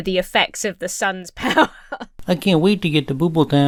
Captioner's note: Emma laughs